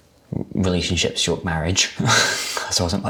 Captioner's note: laughs